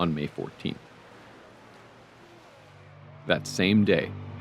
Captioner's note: small waves breaking